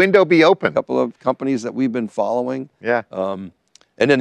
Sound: none

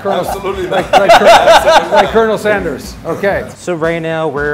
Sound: laughs

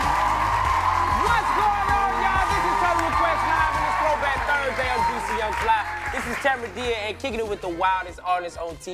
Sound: cheers and applause

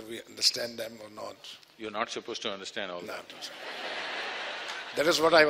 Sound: laughter

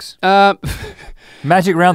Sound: chuckles

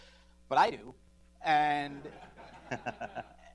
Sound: laughter

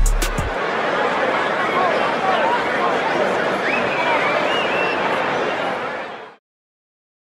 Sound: crowd chatter

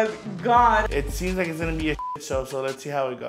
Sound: beep

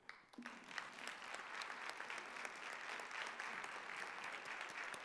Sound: audience applauding

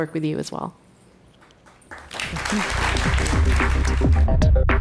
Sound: audience clapping; electronic upbeat music

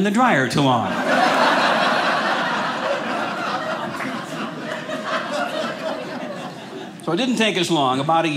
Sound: audience laughing

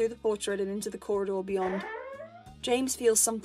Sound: Portrait door opening

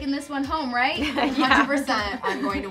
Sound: girls laugh

